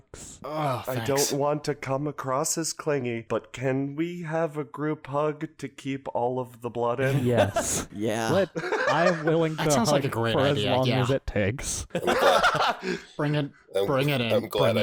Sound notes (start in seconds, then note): 7.1 laughs; 12.0 general laughter ensues